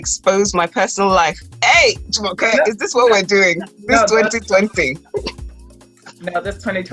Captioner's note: laughs